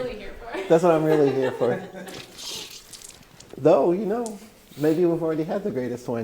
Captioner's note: laughing; sounds of getting wine from barrel